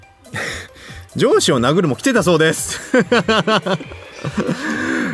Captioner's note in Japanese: 笑い; 笑い